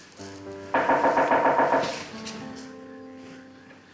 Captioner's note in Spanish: Llamar a la puerta